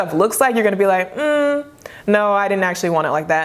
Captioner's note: humming